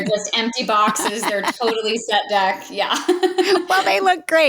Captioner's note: laughs